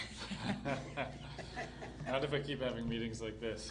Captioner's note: laughter